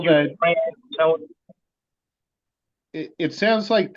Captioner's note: voice is distorted